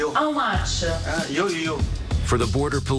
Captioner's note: speaking in native language